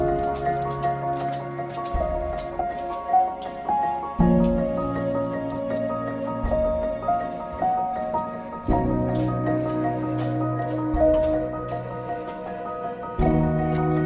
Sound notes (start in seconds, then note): 0.8 squeaky footsteps on concrete floor